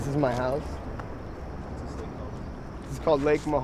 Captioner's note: voiceover